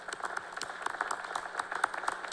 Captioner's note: applause